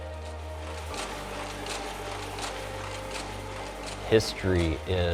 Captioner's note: uplifting music continues; loom clattering